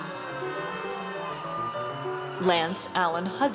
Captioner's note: audience cheers